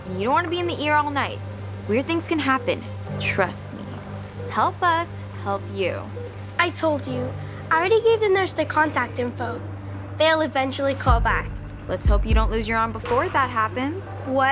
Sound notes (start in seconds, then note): 1.9 monitor beeping